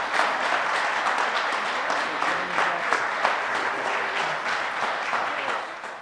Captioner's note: audience applause